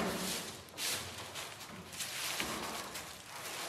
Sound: none

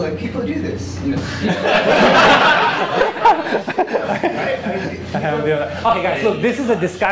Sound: laughter

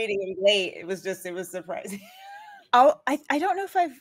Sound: laughs

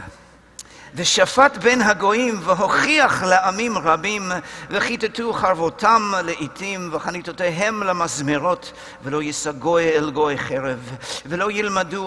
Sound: Hebrew

